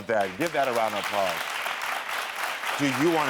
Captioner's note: audience applaud